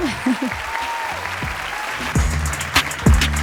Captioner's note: audience applauding; audience cheering; upbeat ambient music